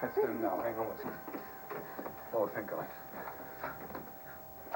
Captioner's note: doorbell ris